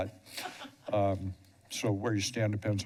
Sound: laughs

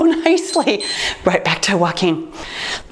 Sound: timer beeps

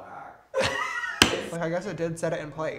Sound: laughter

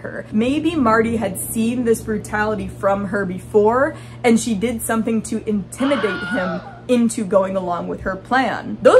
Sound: scream

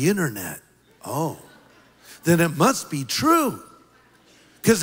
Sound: laughter

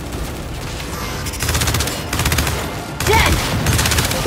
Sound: gunfire

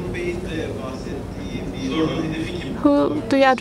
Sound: speaking foreign language

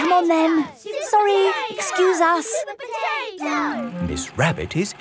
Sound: children chanting

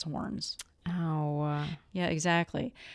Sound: tsk; sad tone

